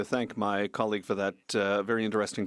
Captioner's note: speaking French